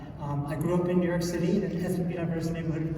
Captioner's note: none